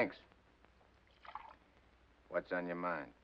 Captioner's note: liquid pours